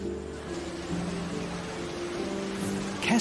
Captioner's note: waves crashing